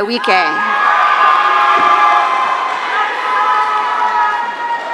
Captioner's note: audience cheering